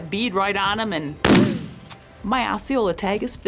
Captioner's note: gunshot